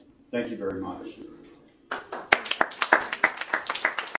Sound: applause

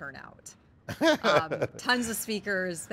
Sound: chuckles

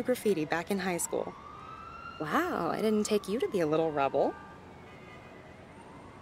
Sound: joking/teasing

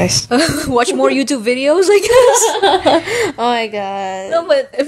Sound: buehehehehehe

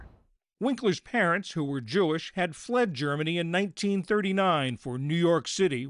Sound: voice-over

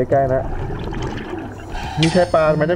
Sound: exhale

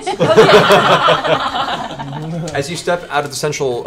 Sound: all laugh

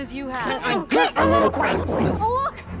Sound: distorted voice

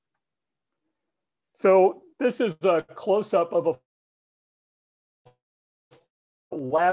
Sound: audio drops

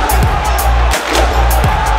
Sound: clap

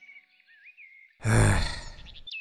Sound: sigh

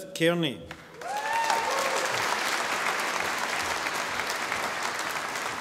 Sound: audience applauding

